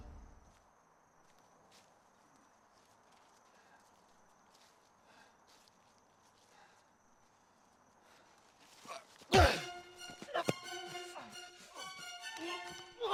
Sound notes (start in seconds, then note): 9.3 axe thuds